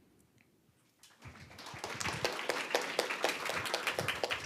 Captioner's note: applause